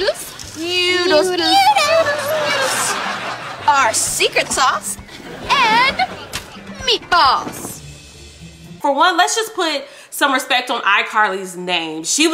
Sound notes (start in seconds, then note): 1.5 audience laughing